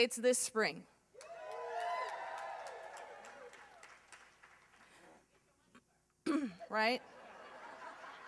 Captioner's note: applause